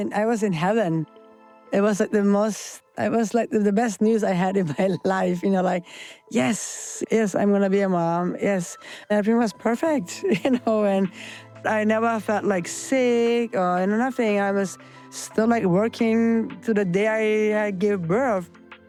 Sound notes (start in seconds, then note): 9.9 laughs